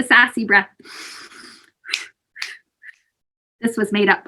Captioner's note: exhaling and snapping fingers